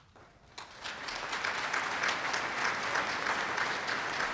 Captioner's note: applause